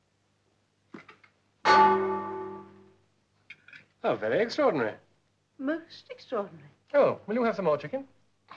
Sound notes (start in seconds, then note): 1.6 clangs